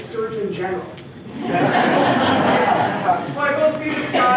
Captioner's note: laughter